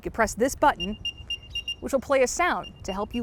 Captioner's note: AirTag beeping